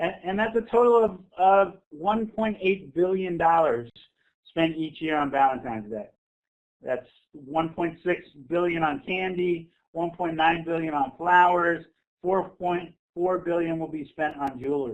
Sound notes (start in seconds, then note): none